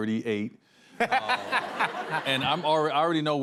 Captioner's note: laughter